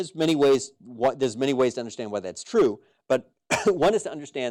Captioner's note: cough